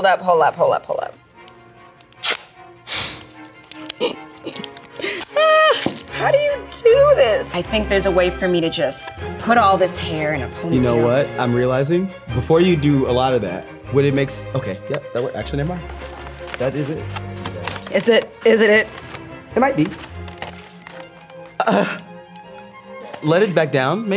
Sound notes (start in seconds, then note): 3.9 chuckling; 21.4 upbeat classical music